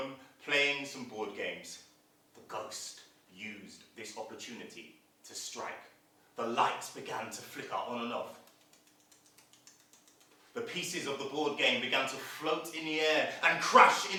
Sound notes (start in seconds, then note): 8.3 sound of flickering